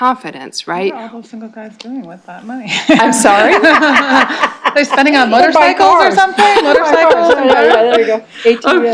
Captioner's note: laughter